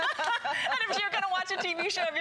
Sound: laughter

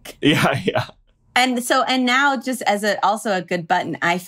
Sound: stammering

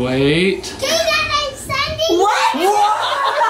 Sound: children yelling

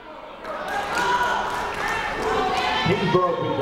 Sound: people shouting in the crowd

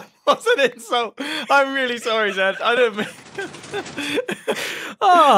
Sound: laughs

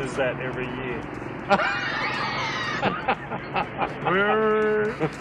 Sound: laughter

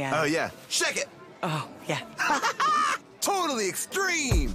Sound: laughs

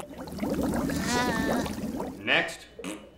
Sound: raspberry; groaning

